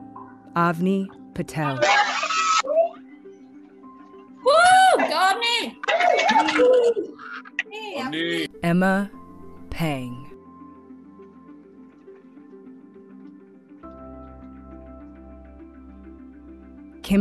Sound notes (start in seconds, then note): 1.5 cheering